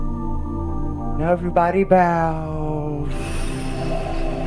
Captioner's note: exhales